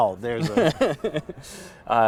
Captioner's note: laughter